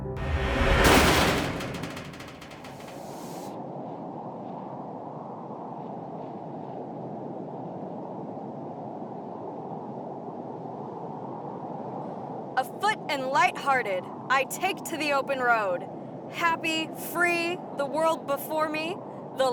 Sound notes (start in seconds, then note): 0.2 door scrapes shut; 3.0 wind blows